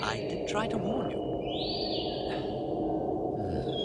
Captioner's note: whistling continues in the distance